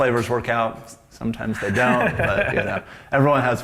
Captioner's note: laughs